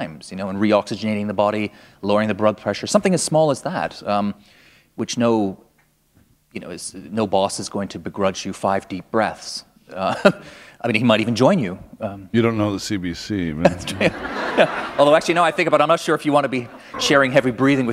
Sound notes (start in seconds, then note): 13.8 laughter